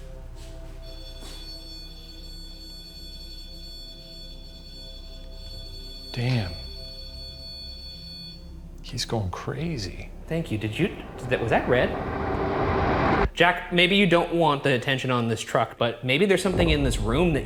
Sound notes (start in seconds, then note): 0.2 device blaring; 0.2 eerie music; 7.0 device blaring; 12.2 foreboding music